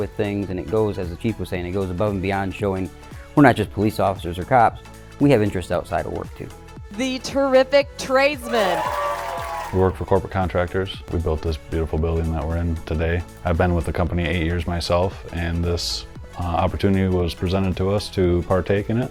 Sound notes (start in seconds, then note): 8.4 crowd cheering